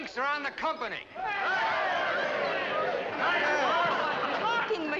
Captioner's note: men cheer